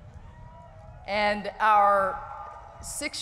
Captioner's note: cheering